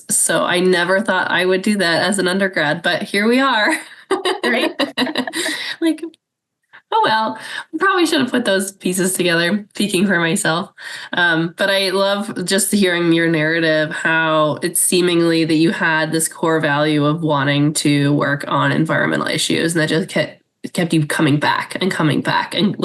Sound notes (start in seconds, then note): 3.8 laughs